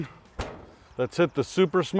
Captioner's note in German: Deckel schlägt auf